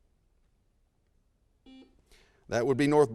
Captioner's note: buzzer sounds